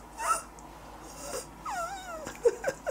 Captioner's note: laughing; groaning